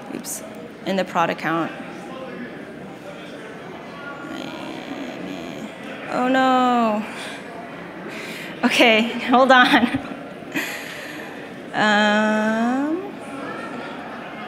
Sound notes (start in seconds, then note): 10.5 laughs